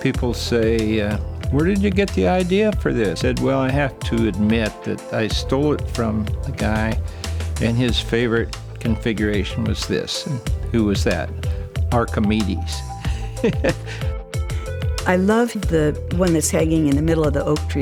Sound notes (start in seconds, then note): 12.9 laughs